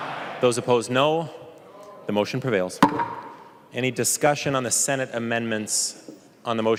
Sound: chorus of ayes

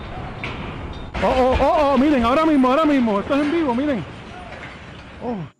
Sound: speaking foreign language

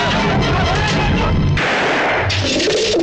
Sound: gunshot

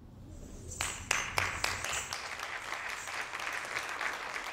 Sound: audience claps

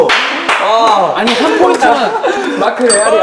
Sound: laughing

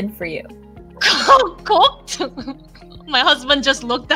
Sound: chuckles

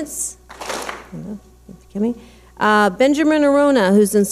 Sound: clap smack

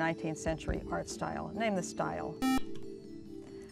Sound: buzzer

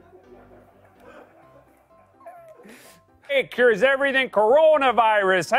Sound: light laughter

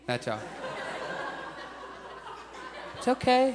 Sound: audience laughs

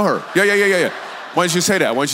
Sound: congregation laughs

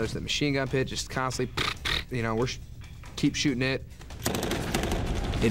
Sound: gunfire sounds

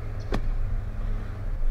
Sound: car door closes

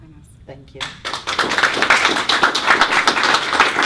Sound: applause

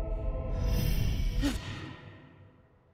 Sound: suspenseful music plays; gasps

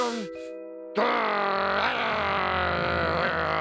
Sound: growls

